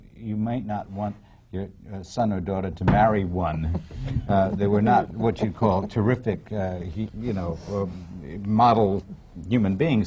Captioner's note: laughter